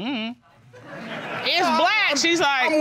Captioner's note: audience laughs